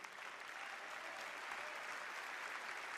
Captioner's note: applause